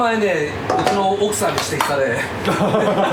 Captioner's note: laughs